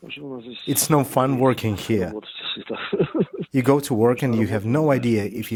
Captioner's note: laughs